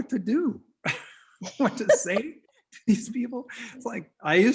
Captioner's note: both laugh